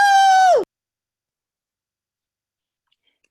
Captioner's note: cheering